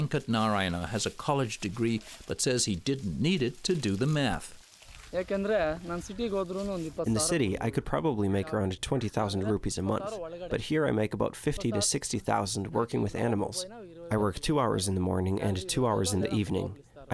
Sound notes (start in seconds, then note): 5.7 through translator